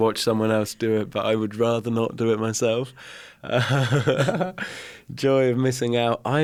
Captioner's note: laughs